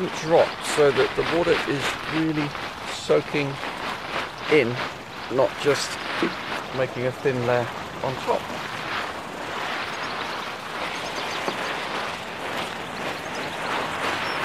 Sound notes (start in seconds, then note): 8.5 water splashing